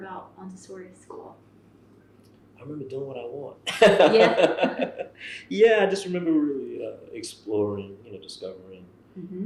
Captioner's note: laughter